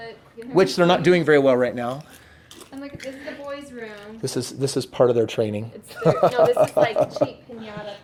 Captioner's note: laughs